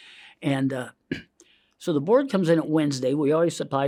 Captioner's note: inhales